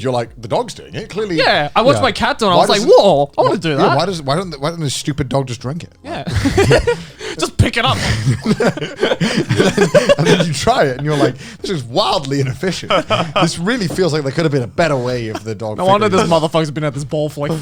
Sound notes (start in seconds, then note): 6.8 laughs; 8.9 laughs